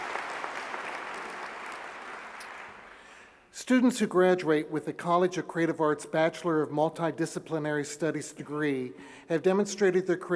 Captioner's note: applause